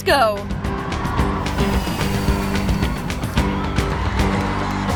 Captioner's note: airship engines